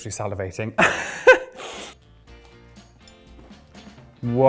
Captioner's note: laughs